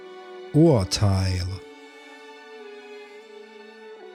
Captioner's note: german